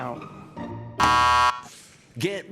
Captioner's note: buzzer buzzes